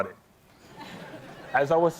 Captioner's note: laughter